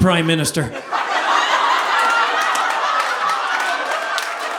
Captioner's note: audience laughing